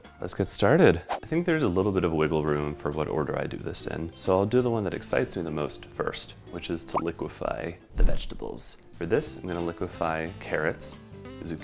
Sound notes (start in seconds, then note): 0.8 whooshing; 6.9 bubble pops; 8.0 whooshing